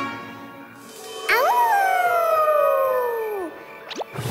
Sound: howling

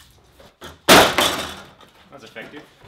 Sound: rattling

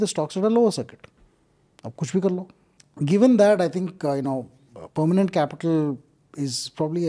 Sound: speaks in Hindi

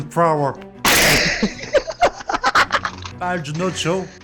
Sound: laughter

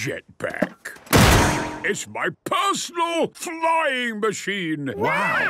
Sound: clangs

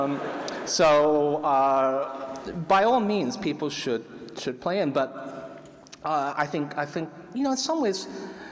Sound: laughter

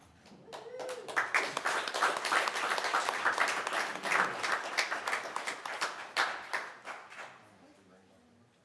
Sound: applause

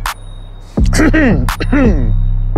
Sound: clears throat

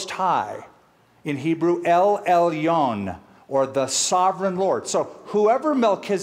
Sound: speaking hebrew

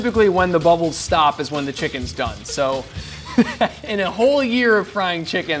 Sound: laughs

